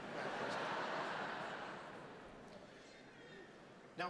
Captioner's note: audience laughs